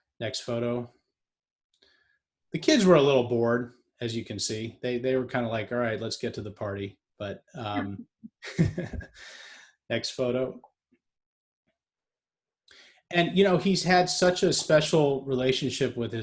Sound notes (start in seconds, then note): 8.4 giggling